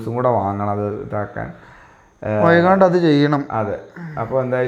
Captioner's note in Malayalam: ചീറ്റുന്നു